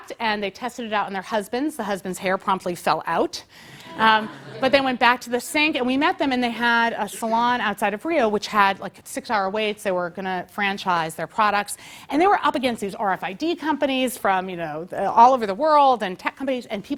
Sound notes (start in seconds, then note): 3.8 laugh